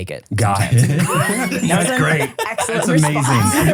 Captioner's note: laughing